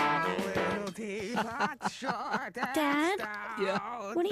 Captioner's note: laughing